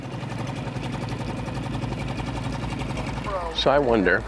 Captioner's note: boat engine humming